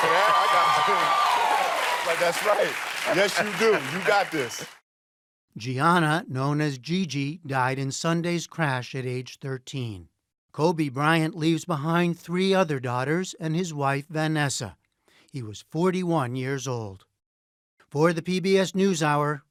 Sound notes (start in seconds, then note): 0.0 cheering and applause